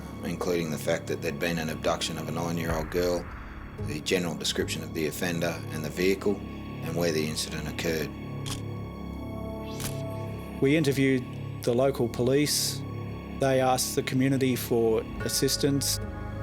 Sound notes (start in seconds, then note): 9.7 camera shutter click